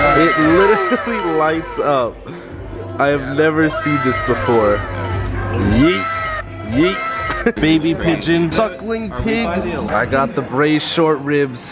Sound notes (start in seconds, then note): 6.7 laughs